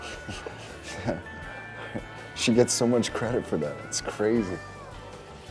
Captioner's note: Drew chuckling; laughs